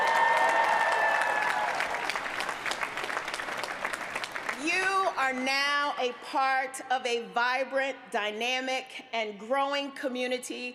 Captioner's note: applause